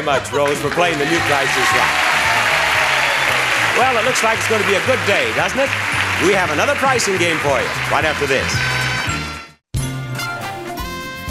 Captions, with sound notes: for playing the new "Price Is Right." (audience applauding) Well, it looks like it's gonna be a good day, doesn't it? We have another pricing game for you right after this.